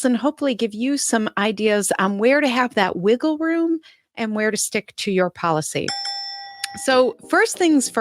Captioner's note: ding, ding